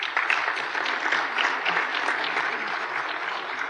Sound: applause

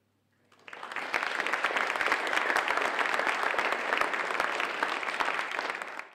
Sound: applause

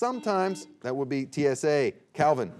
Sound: buzzer beeping

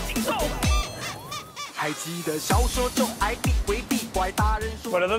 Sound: laughs

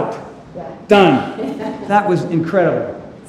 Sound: Cynthia laughs

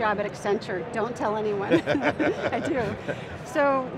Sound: laughs

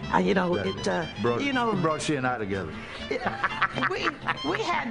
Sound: laughs

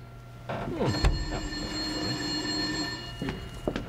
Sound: phone ringing

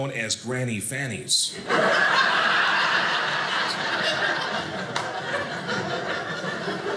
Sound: audience laughing

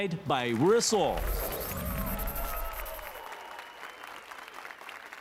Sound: applause and cheers

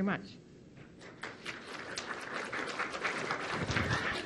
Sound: applause

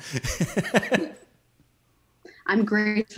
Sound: laughing

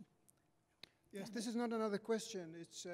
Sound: voiceover

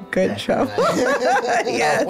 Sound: laughter

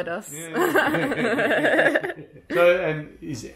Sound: all laughing; laughs

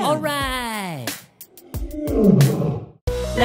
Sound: animal sound: roar

